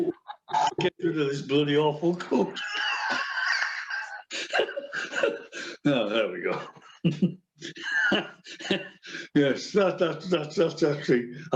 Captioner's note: laughs